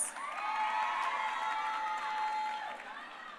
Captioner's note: crowd cheering